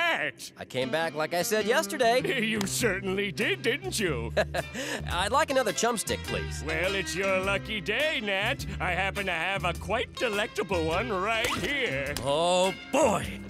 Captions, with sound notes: I came back like I said yesterday. You certainly did, didn't you? [chuckles] I'd like another chum stick, please. Well, it's your lucky day, Nat. I happen to have a quite delectable one right here. Oh, boy.